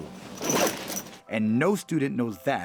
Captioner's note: zipper rasping